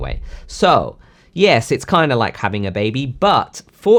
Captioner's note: air gushing